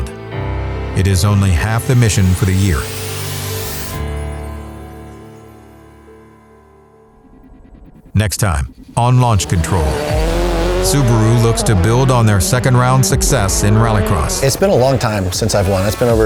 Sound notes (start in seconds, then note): 9.8 engine revving; 10.9 intense music